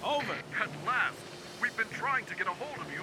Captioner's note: on Radio